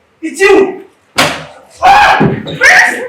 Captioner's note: stabbing noises